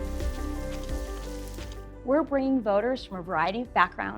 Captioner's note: pan sizzling